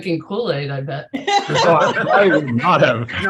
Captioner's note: laughs